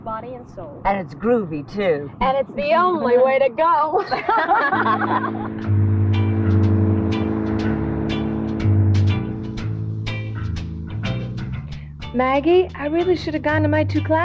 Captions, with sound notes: It's body and soul. - And it's groovy too. - And it's the only way to go. (all laughing) (engine roaring) - Maggie I really should have gone to my two classes